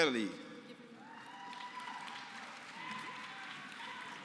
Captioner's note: applause